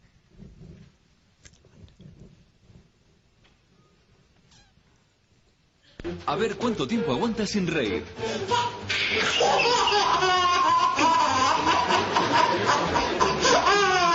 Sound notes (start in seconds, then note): 6.4 Spanish